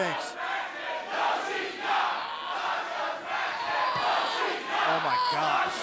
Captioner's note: crowd cheering